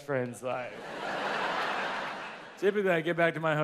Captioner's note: audience laughs